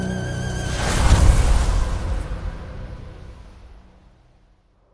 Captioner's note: sandstorm